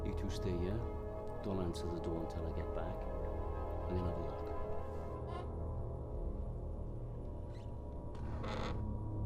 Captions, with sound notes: You two stay here, don't answer the door until I get back. I'll have a look. (door creaking)